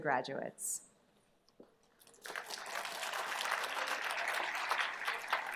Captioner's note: applause